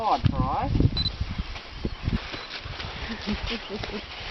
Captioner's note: camera beeping; onlooker chuckling